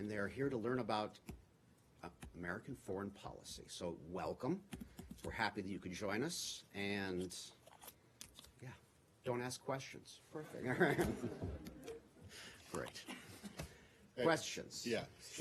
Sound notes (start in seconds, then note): 12.3 laughter